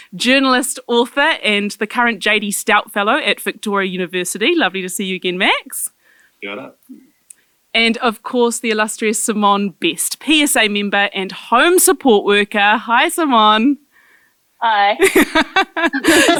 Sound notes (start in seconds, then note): 6.4 speaks foreign language; 15.0 laughing